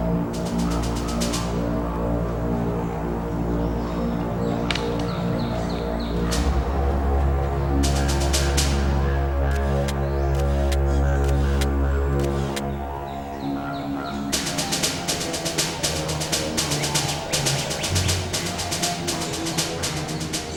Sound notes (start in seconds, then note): 0.1 foreboding music; 9.4 shutter clicking